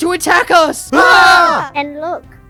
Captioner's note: Israelites wailing